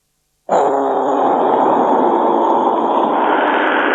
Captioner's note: Sound Of Toby Blowing Hard